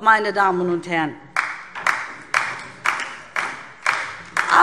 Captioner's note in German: Beifall DIE LINKE